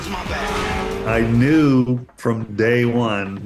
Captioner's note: car speeds off